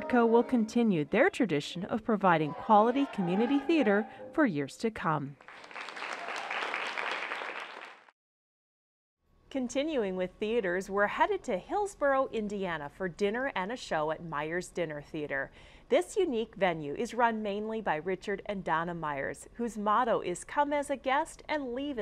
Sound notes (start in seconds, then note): 5.4 applause